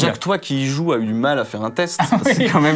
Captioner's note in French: rire